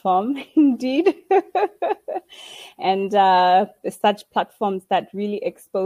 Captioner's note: laughing